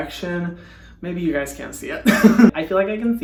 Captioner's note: laughing